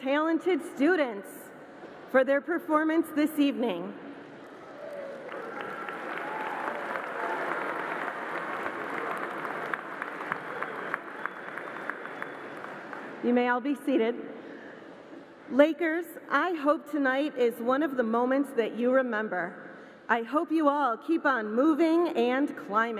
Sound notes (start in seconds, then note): 4.6 applause